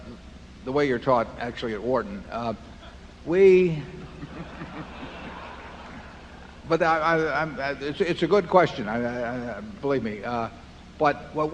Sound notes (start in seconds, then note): 3.9 laughter